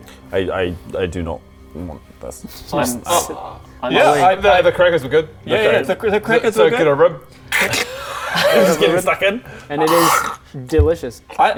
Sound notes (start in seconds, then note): 7.3 crrck; 10.2 crunch